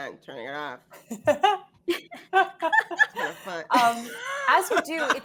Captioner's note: all laughing